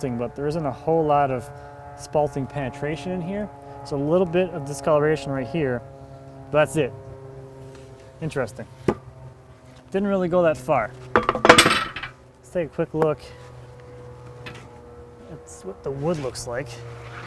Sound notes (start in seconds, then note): 11.1 wood clunking; 13.7 airplane engine roaring